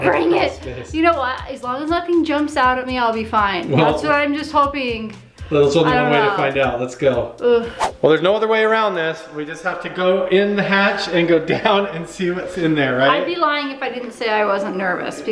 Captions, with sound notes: - Bring it! You know what? As long as nothing jumps out at me, I'll be fine. Also, I'm just hoping. - Well, there's only one way-- - I don't know. - to find out; let's go. - Ugh! (whooshing) - Well, there's no other way around this. We just have to go in the hatch and go down and see what's in there, right? - I'd be lying if I didn't say I wasn't nervous